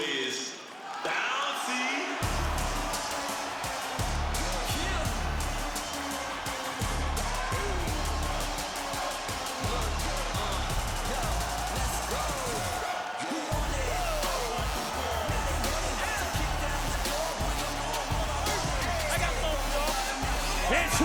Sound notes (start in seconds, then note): 2.2 crowd cheers; 4.8 upbeat music plays; 12.8 crowd cheers; 18.0 upbeat music continues